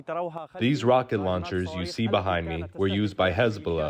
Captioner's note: through translator